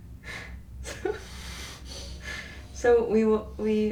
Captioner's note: chuckling